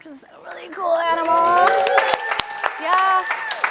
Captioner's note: audience claps and cheers